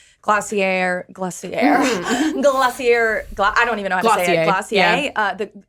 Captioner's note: laughs